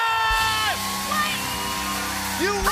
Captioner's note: cheers and applause